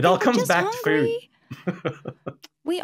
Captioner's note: chuckles